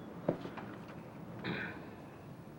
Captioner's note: clears throat